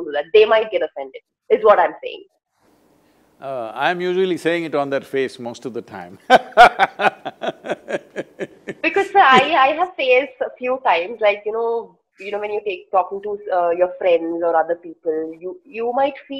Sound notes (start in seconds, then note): 6.2 laughs